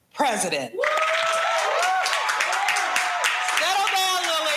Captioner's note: audience cheering